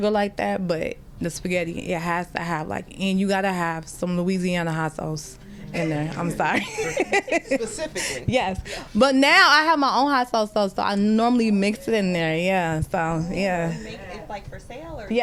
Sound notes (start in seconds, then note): 6.4 laughter